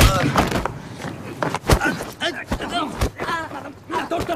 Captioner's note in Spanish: Golpes